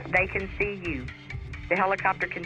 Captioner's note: on phone